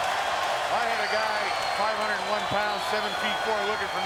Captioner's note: applause